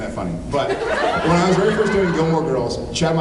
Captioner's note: laughs